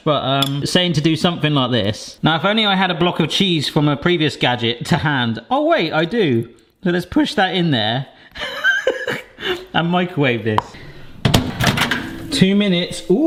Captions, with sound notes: But it's saying to do something like this. Now if only I had a block of cheese from a previous gadget to hand. Oh wait, I do. So let's push that in there (laughs) and microwave this. (door clunks) Two minutes.